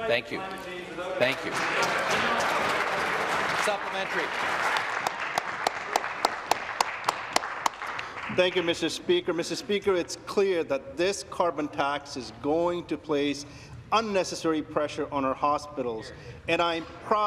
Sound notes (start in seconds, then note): 5.6 applause